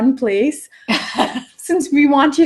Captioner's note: laugh